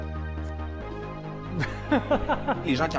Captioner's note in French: rires